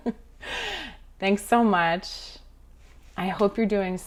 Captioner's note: chuckling